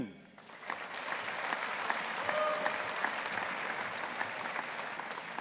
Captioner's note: audience applauding